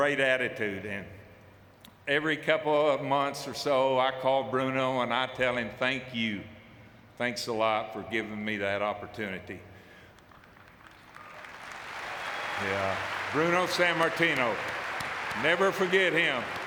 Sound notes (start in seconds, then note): 13.8 audience clapping